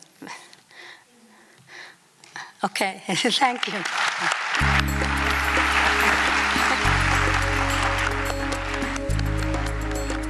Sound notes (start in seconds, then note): 3.2 applause